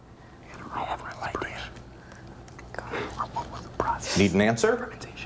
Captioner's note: students whispering